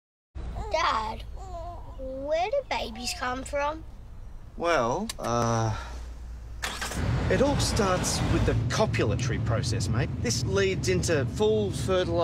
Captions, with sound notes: Dad, where do babies come from? Well uhh- [Engine Starts] It all starts with the copulatory process mate, this leads into full fertilisation-